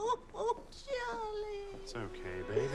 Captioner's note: crying; sobbing